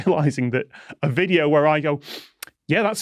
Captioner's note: sniff